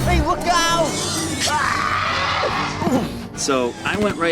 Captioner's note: yelling